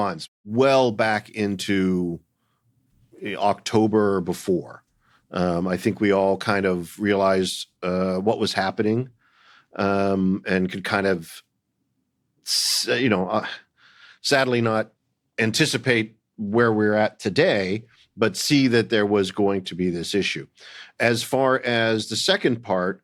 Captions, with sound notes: well back into... October or before. I think we all kind of realized what was happening and could kind of, you know... (SIGHS) ...sadly not anticipate where we're at today, but see that there was going to be this issue. As far as the second part,